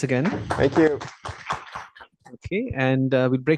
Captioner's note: applause